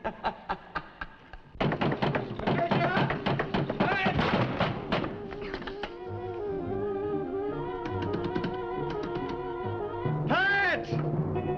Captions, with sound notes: (door thudding) Patricia! Pat! (dramatic music) Pat!